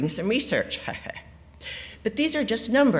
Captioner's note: laughs